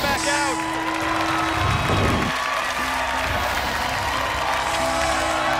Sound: cheers and applause

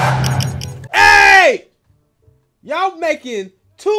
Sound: yelling

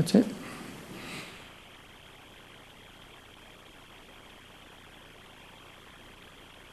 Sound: no speaking

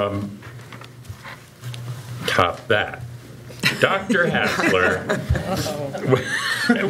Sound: laughter

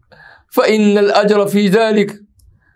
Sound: arabic

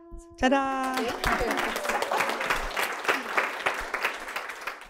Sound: applause

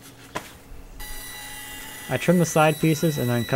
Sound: saw buzzing

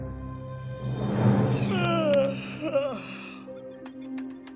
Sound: yawning

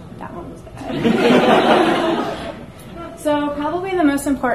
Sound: audience laughs

